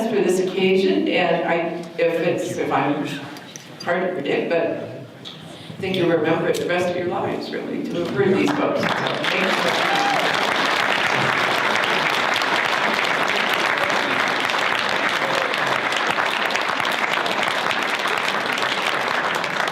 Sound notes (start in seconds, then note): 9.8 audience cheers; 11.2 audience applause